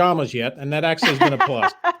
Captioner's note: laughter